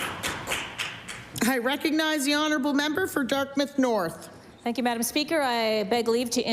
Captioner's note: applause